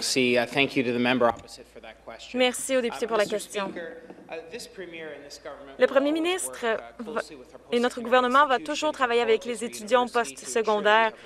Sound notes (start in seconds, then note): 3.9 speaking French